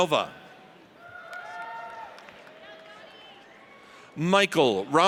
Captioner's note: audience cheers